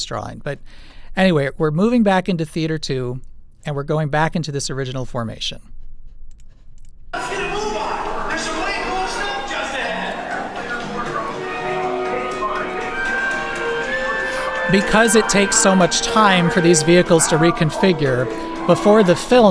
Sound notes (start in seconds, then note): 6.9 Bill Nye’s voice